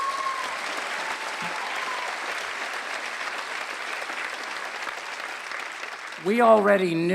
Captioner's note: applause